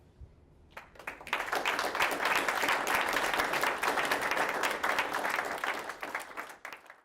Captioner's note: applause